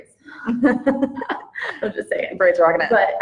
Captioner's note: laughs